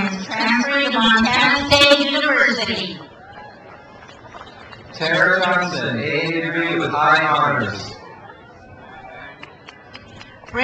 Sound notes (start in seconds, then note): 3.0 crowd applauds; 8.0 crowd applauds